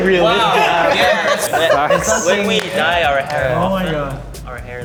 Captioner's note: laughing